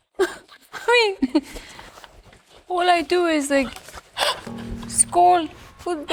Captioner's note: Olivia laughing